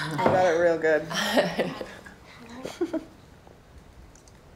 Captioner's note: laughs